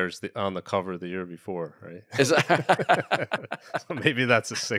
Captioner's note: both laugh